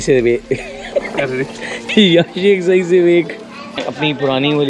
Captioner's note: laughs